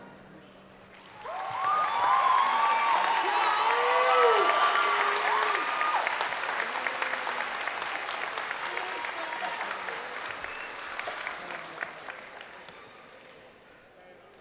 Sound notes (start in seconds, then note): 2.1 crowd applauding and cheering